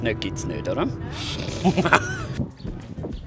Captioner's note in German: lacht in Selbstbewusst